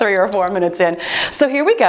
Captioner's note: timer beeps